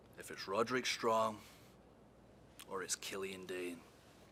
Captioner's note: none